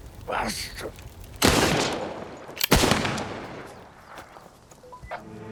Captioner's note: gunshots blasting